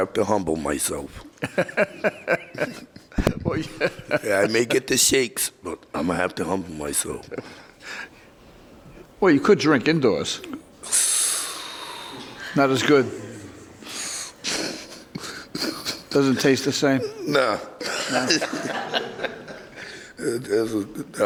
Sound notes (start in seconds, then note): 1.4 laughing; 10.6 breathing; 14.4 laughing; 18.5 laughing